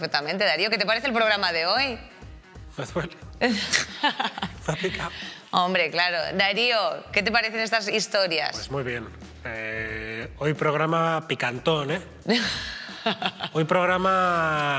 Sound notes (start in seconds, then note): 3.4 she is laughing; 12.2 she laughs